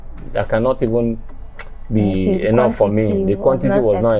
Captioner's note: smacks lips